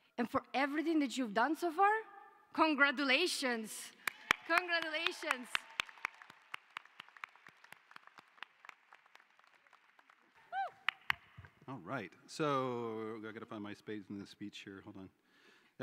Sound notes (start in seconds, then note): 6.4 applause